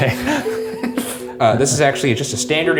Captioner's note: both laughing